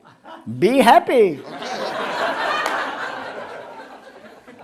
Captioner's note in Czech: smích